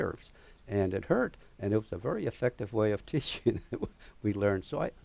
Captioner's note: laughter